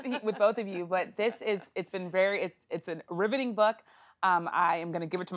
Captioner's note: laughter